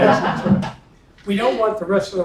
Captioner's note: laugh